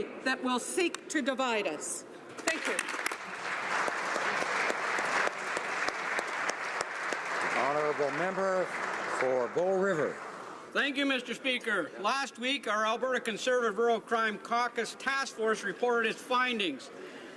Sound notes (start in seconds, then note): 7.7 applause